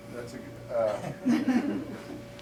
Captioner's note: laughter